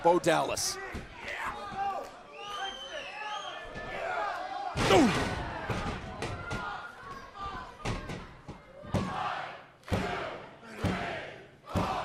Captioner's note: crowd cheering